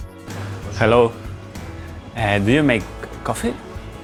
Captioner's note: in English